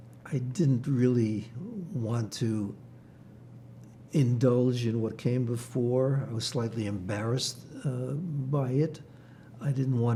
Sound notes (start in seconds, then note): none